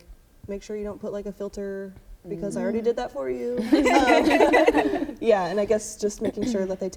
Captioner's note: laughter